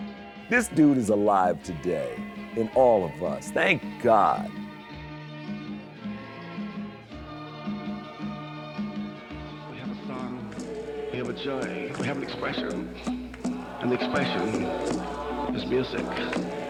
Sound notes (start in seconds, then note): 5.3 people vocalizing; 5.3 uplifting music